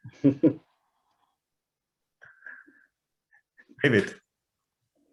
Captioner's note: laughs